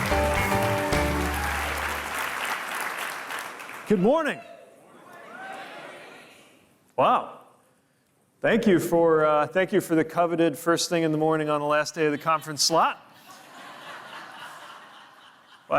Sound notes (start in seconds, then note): 0.0 audience applauding; 4.8 crowd; 13.2 audience laughing